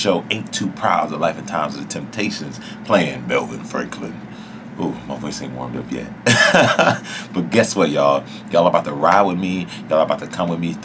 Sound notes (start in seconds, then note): 6.2 laughs